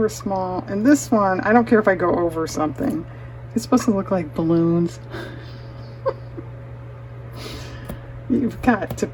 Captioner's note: laughter